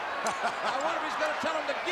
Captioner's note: Vince laughing